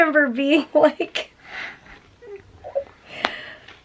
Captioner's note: giggling